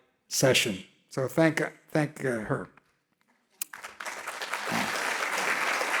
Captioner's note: audience clapping